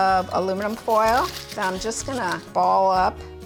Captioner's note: foil crunches